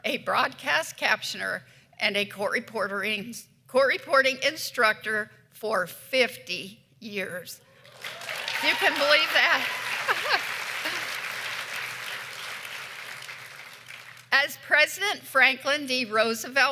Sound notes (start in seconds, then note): 11.9 applause